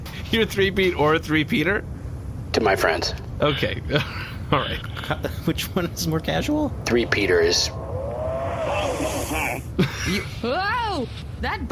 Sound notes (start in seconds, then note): 5.1 hesitant